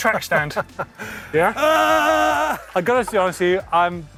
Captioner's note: laughter; yelling